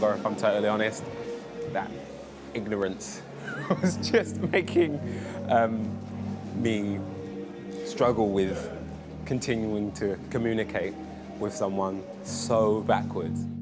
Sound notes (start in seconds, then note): 3.3 laughing